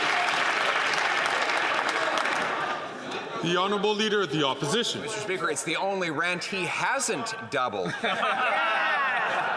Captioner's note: some Applause